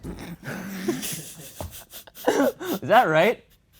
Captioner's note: laughs